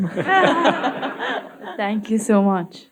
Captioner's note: audience laughing